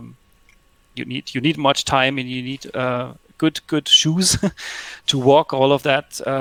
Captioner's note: laughs